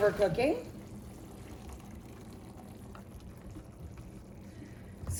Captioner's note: water draining